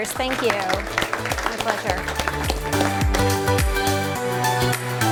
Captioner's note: applause & music